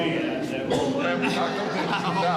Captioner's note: chatting